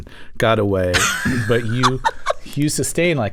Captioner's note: laughter